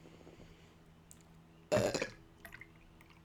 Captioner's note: burp from hell